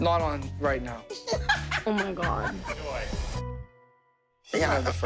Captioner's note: Abby laughs